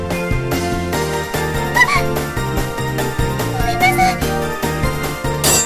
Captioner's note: screams